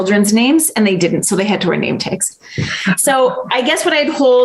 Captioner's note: laughs